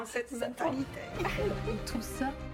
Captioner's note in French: rires